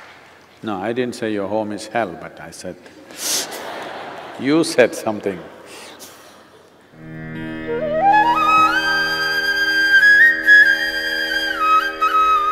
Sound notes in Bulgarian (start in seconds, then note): 0.0 аплодисменти; 2.9 смях; 3.0 смее се